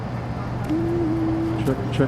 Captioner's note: hums